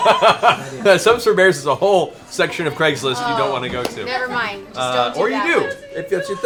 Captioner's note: laughs